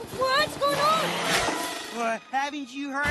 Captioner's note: screech! spring!